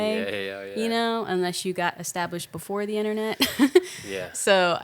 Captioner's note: laughing